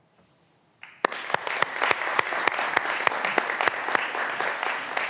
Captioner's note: graduands applauding